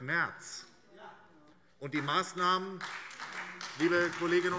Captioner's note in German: Beifall SPD